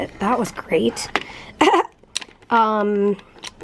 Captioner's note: chuckles